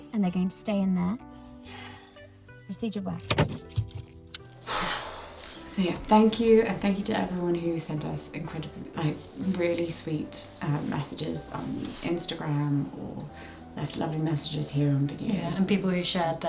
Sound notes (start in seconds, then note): 4.6 exhales